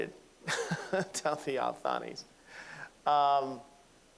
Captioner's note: laughing